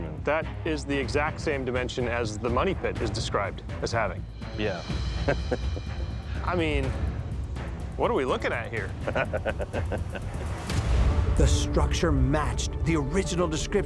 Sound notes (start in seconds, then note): 5.2 chuckles; 9.0 laughs